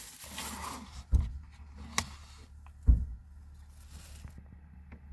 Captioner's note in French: Le bruit d'une portière de voiture qui se ferme à côté de vous